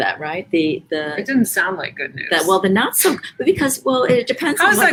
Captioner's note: laughs